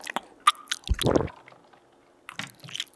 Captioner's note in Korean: 꼴깍!